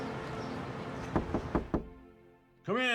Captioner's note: knocking on door